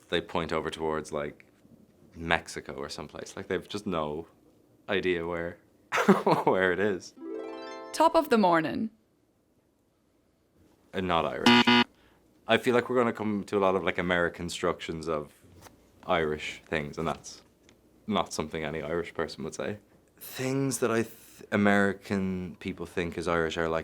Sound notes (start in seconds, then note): 5.8 laughs; 7.2 chiming music; 11.4 buzzer buzzes